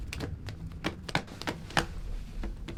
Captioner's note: thumping